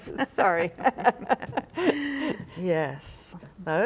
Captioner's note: laughing